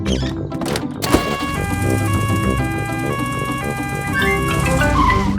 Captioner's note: siren wails